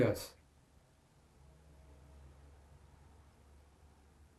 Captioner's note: pauses 8 seconds